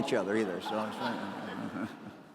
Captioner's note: laughter